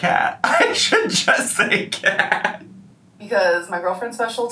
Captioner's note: laughing